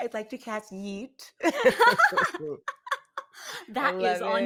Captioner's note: both laughing